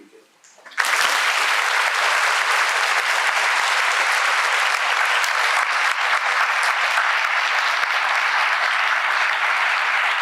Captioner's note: applause